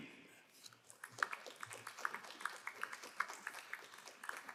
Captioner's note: crowd applauding